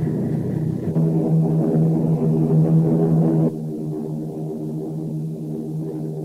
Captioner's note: plane engines roaring